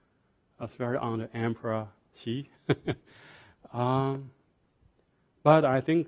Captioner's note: laughs